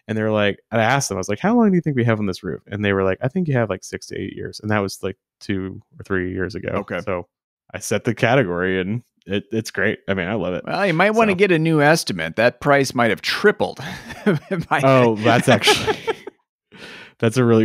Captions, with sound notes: and I asked them, "How long do you think we have on this roof?" And they were like, " I think you have like six to eight years." And that was like two or three years ago. - Okay. - So I set the category and it it's great. I love it. - Well, you might wanna get a new estimate. That price might have tripled. (chuckles)